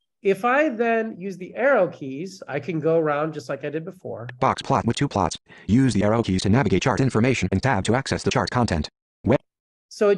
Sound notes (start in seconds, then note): 4.4 voiceover